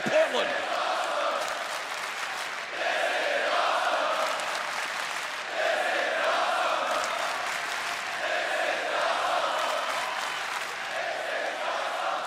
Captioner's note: crowd cheering